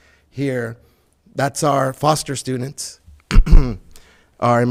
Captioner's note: clears throat